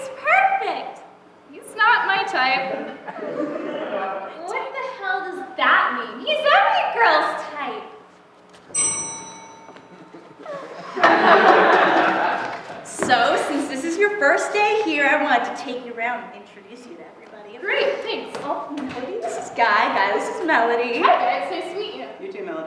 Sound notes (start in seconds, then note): 8.7 bell rings; 11.6 laughter